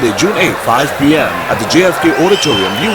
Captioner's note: wild applause and cheering for 22 seconds